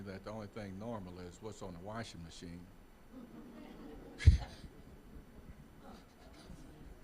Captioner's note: audience chuckling